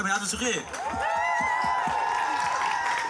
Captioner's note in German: Jubel